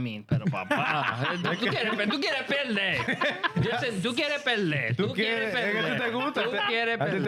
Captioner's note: laughing; speaking In Foreign Language